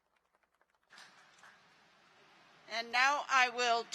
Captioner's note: applause